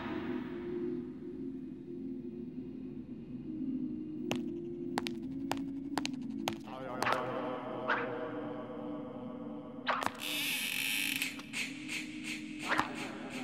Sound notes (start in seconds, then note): 6.7 echoing; 9.6 creaking